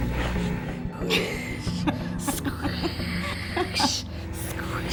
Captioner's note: laughing